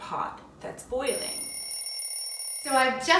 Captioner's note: timer rings